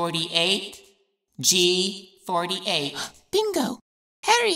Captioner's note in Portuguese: Suspiros